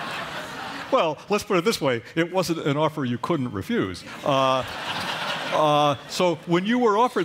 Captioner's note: laughter; laughter